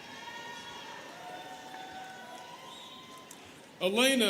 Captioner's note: students cheering